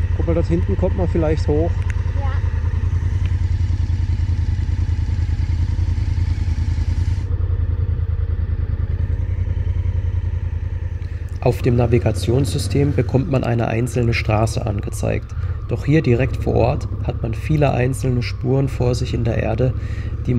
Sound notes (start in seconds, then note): 2.7 engine noise